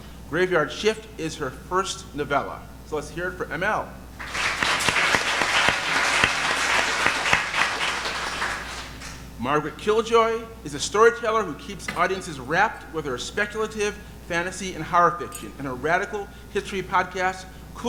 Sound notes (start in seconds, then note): 4.2 audience applauding